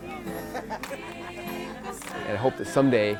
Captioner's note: upbeat music; laughs